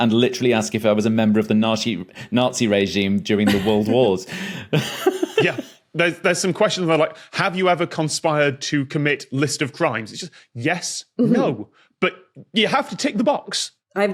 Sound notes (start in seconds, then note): 4.6 giggles